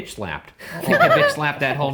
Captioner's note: laughing